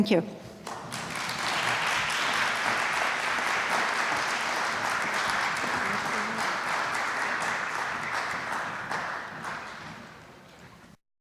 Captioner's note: applause